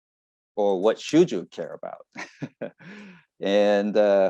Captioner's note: laughs